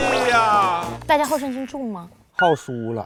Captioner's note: laughs